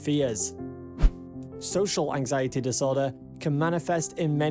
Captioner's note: screen swishes